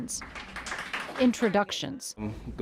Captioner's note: attendees clapping